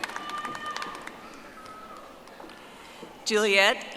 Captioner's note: audience applauding